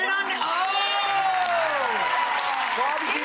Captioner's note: audience cheering